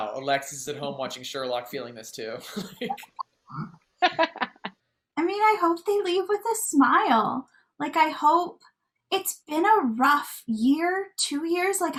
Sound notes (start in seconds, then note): 4.0 laughing